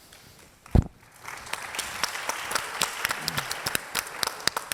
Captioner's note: audience applauds